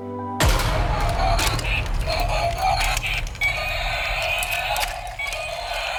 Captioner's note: dramatic musical score; toy roars